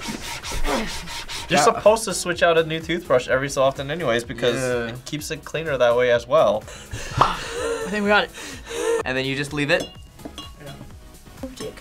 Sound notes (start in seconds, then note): 0.5 grunts; 8.2 breathes heavily